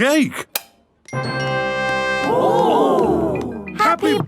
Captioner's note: click